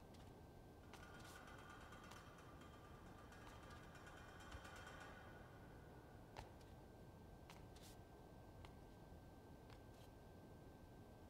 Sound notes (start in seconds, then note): 1.2 eerie rattles